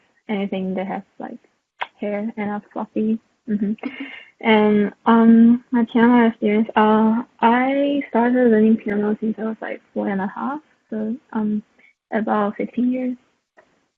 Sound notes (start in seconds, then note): 1.7 clicks tongue